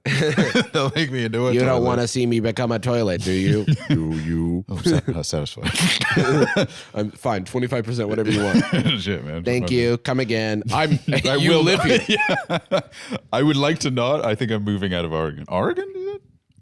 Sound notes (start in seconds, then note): 4.0 deep voice